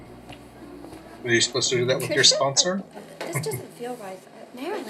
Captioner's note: chuckling